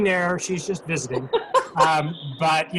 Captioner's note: laughs